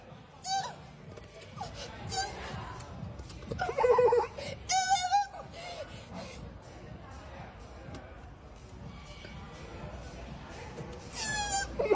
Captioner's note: assorted Coon noises